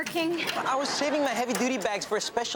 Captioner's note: audience laughs